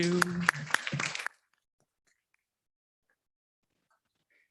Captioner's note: audience applauds